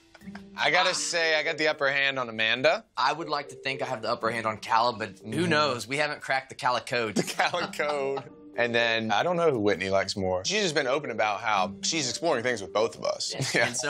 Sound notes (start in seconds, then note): 7.1 laughing